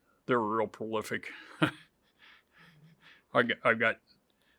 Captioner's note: chuckles